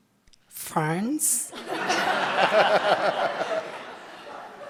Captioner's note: audience laughs